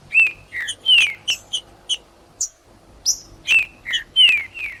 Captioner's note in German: trinca ferro cantando